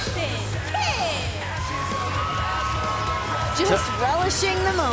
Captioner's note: crowd cheering